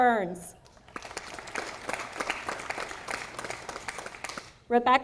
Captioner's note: audience applauding